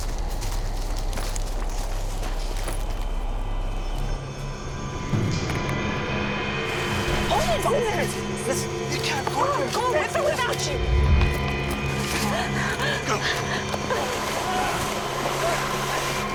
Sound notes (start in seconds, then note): 12.5 panting; 14.6 shouts